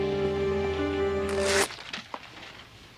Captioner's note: zipping sound